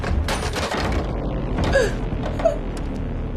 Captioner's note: gasping